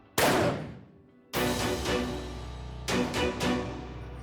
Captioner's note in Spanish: Disparo